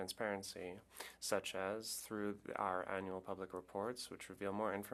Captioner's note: speaking French